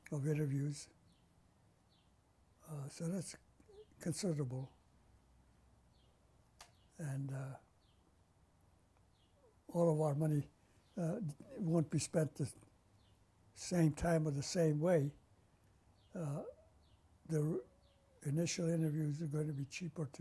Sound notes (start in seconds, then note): 4.3 pauses for 3 seconds